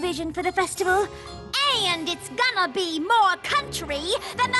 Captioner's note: puts on country accent